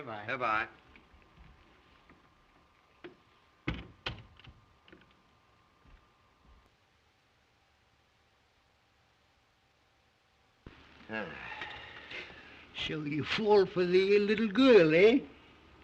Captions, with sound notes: Good-bye. [sighs] So you've fallen for the little girl, eh?